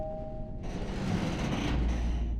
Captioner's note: creaking